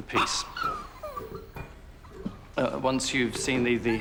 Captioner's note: dog barking